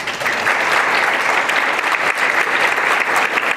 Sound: applause

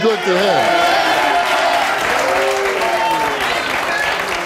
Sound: audience applauding

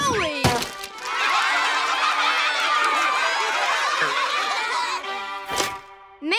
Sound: cheering

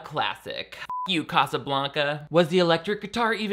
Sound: beep

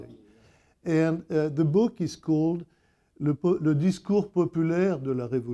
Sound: speaking in French

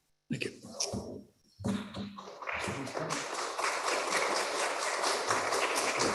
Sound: applause

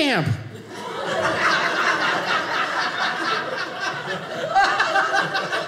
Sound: audience laughing

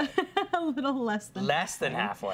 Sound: giggling

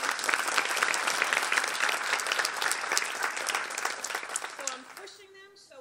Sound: applause

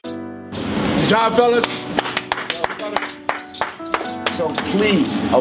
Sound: clapping

